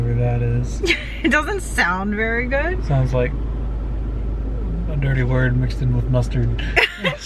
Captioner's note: laughs